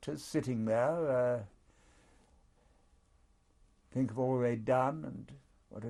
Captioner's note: pauses for 3 seconds